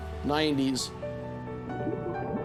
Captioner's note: regulator bubbles